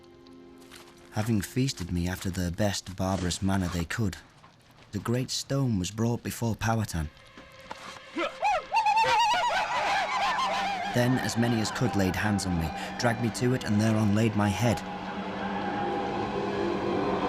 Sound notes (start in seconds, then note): 8.1 men ululating